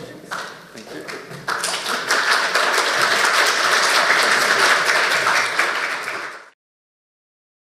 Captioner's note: applauding